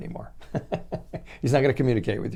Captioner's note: chuckling